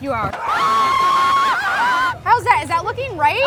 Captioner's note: screams